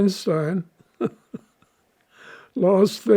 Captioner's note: laughing